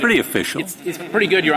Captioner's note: laughter